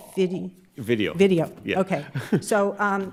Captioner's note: chuckles